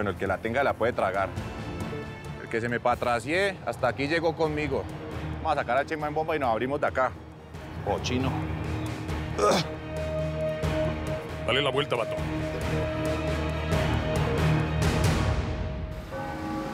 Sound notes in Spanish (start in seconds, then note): 9.4 exclamación de asco